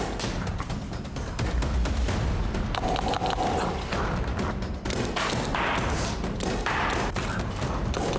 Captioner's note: gunfire